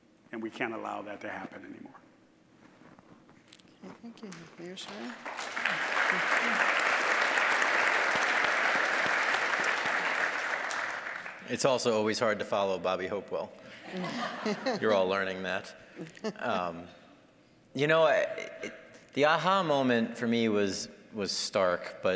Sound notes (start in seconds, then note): 4.7 applause; 13.8 audience laughing